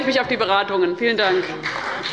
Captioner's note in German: Beifall bei Abgeordneten des BÜNDNISSES 90/DIE GRÜNEN und der CDU